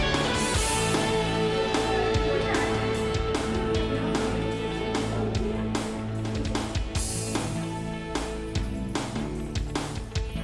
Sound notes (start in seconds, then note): 4.2 people talking; 7.2 upbeat pop music